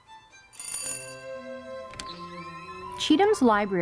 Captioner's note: bell ringing